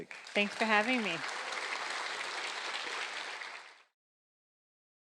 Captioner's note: audience appluading